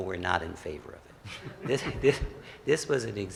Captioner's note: laughs